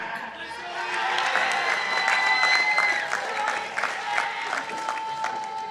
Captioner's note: participants applauding